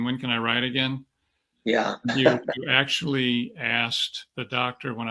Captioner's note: chuckles